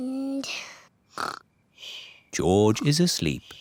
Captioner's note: snores